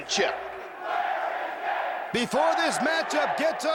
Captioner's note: crowd chatter